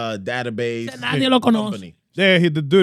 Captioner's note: speaking In Foreign Language